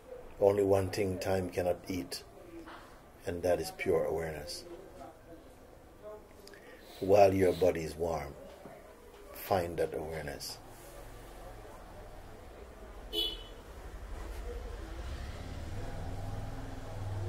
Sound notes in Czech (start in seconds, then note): 13.6 Dlouhé ticho